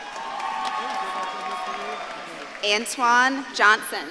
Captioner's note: audience claps and cheers